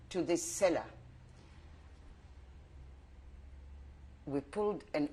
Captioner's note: pauses for 3 seconds